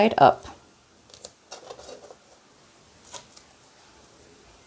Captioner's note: tape tears